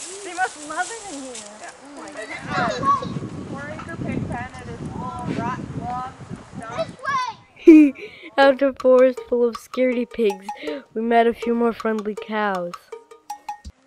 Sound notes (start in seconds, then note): 7.6 ha-ha